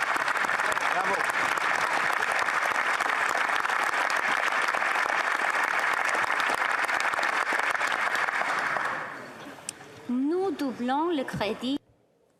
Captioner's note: applause